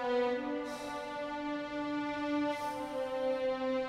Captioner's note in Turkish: Nefes sesi